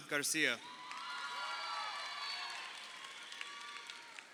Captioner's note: crowd cheering